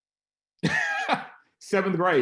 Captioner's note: laughs